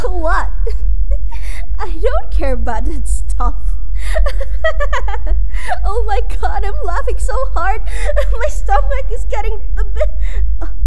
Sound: laughs; laughs

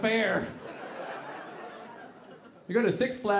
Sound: audience laughing

